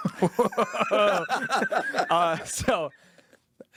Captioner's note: both laughing